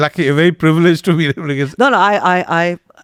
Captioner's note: laughs